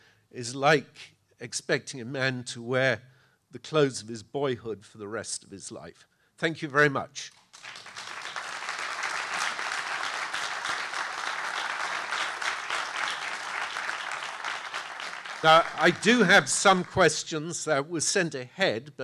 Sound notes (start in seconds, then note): 7.7 audience applauding